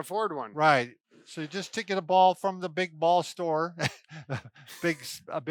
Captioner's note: laughs